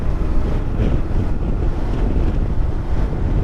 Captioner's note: engine rumbling